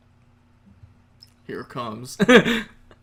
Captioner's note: laughing nervously